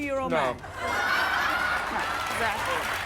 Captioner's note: audience laughs